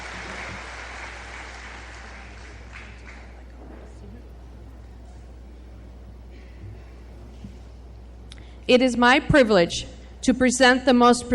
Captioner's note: applause